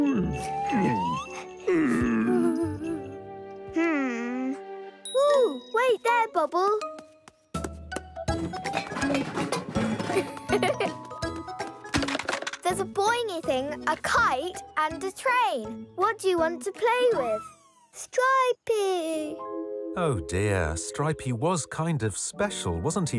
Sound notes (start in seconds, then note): 1.6 grumbling; 7.8 cheerful upbeat music; 8.5 rattling; 10.0 giggling; 11.8 rattles